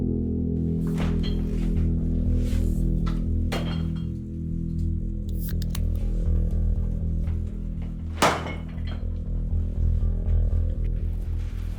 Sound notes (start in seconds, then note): 5.3 can clicking